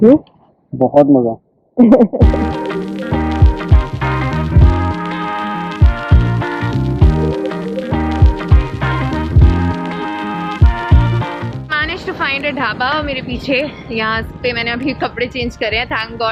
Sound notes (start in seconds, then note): 1.8 chuckles